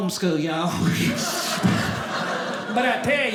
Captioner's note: audience laughing